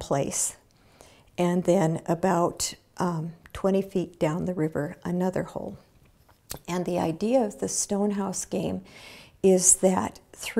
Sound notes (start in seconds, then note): none